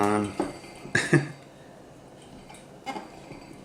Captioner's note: laughs